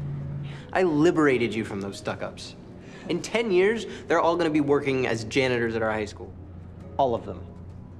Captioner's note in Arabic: none